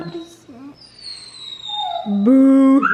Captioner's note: penny whimpers